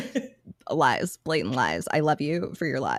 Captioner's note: laughing